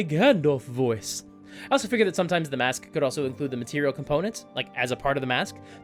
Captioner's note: normal voice